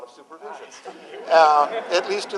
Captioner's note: laughter